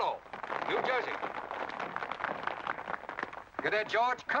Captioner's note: applause